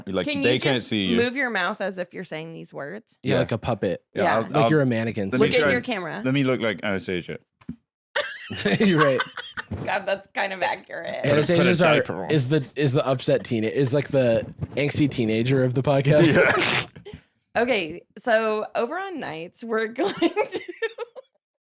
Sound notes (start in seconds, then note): 8.2 laughs; 20.0 dissolves into laughter